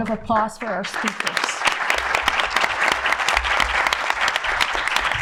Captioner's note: audience applauding